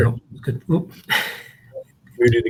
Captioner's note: chuckles